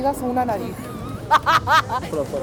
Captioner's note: laughs